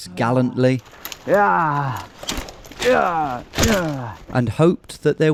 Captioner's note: branches crunching; grunts